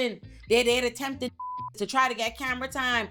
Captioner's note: beep